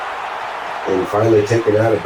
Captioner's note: crowd Noises